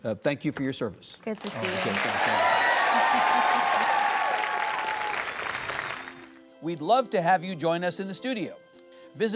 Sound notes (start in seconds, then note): 1.4 audience applauds